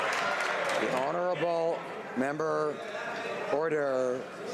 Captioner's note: some Applause